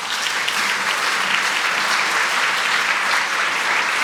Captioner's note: audience applauds